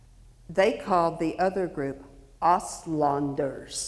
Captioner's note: speaks foreign language